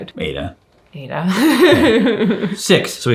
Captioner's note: chuckles